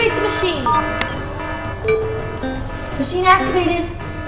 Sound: alarm sounds

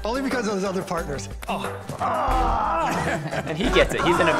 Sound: laughing

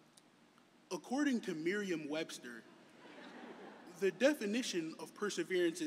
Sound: laughter

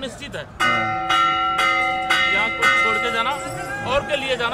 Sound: bell ringing

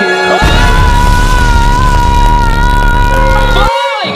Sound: screaming

